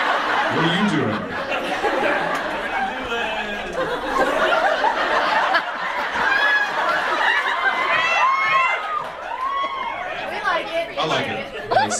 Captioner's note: audience laughs